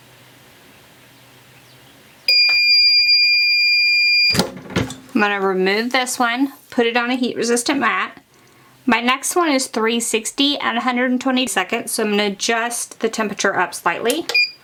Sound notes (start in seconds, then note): 2.3 machine beeps; 14.2 machine beeps